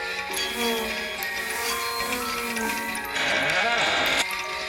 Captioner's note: insect buzzing; floor creaking